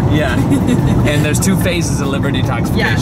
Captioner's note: laughs